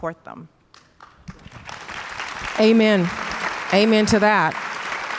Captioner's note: audience applause